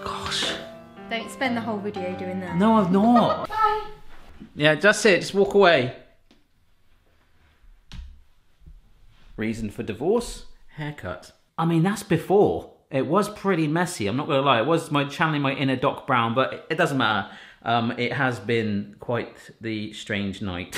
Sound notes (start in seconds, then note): 3.1 laughing